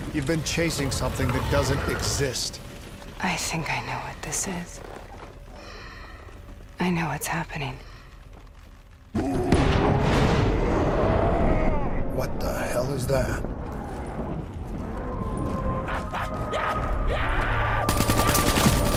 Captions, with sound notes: You've been chasing something that doesn't exist. I think I know what this is. I know what's happening. [CREATURE ROARING] What the hell is that? [CREATURES ROARING]